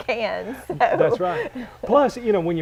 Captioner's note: chuckle